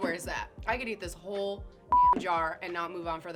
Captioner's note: beep